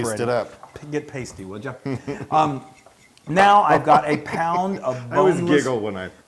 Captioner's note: laugh